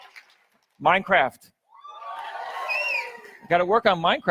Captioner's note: audience cheers